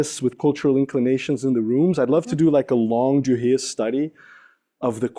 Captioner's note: non-english speech